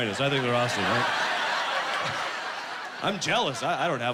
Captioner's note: laughing